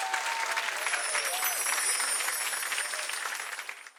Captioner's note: bells chiming